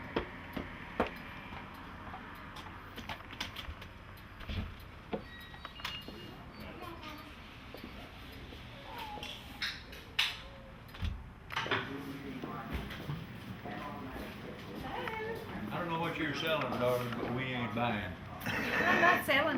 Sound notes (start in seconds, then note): 5.2 door squeaking; 13.4 people chattering